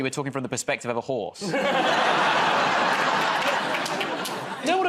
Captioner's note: laughter